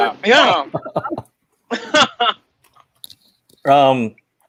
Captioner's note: laughing